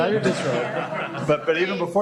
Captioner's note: laughter